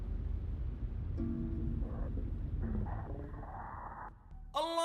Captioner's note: soft static noise